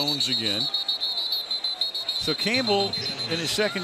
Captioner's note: whistle blowing